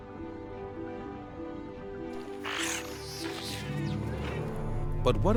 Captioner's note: chitters